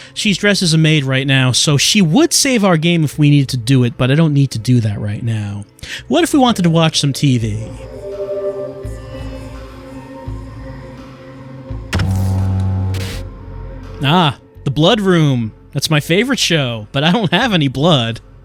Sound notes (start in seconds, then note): 12.0 low analog humming, brief static